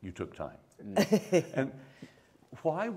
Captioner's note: laughs